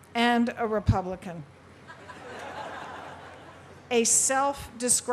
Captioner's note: laughter